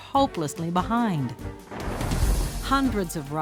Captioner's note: thunder rumbles